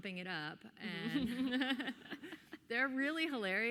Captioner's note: everyone laughing